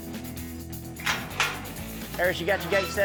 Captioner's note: gate clanking